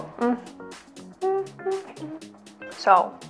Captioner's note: hums